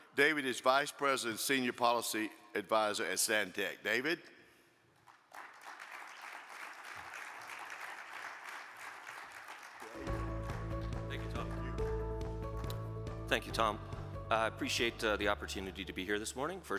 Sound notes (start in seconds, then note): 5.0 audience applaud; 10.3 cheerful music